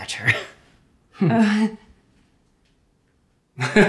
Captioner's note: awkward laugh